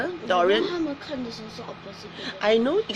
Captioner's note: girl speaks in foreign language